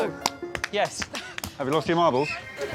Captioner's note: blows whistle